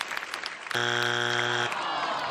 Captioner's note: buzzer